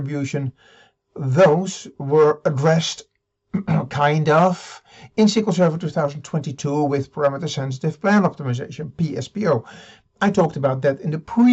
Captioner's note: ahem